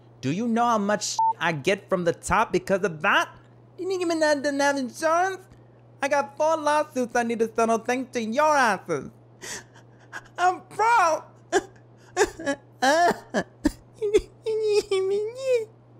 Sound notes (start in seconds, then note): 1.2 beep; 10.0 Nicki crying